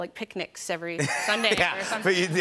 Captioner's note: laughter